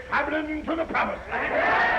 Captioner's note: all chattering